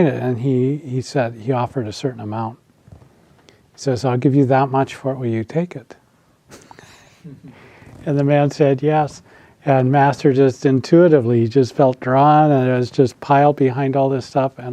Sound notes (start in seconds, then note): 7.1 laughs